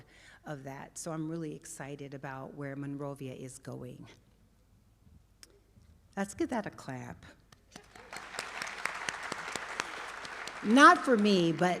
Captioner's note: applause